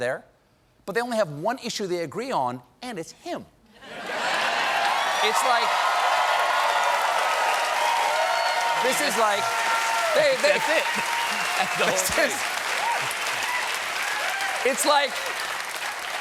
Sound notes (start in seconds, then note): 3.9 cheers and applause; 4.8 laughter